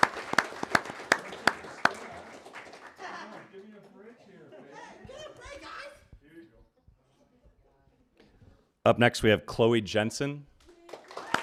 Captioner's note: applause